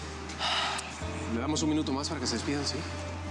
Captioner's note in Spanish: exhala